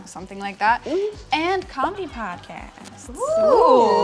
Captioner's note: crowd laughs